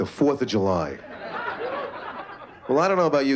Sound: laughter

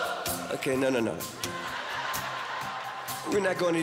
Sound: audience laughing

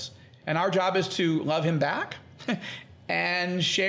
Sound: laughing

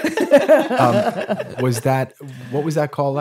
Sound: laughing

